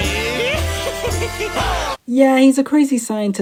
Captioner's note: pedo laugh